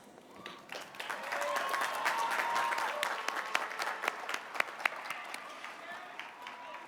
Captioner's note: cheers and applause